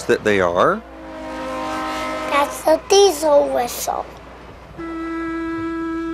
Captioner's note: train hoots